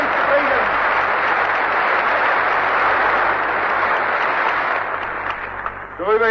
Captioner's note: applause